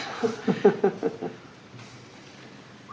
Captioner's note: OR KIA chuckles